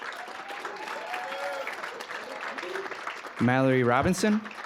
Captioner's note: cheering, applause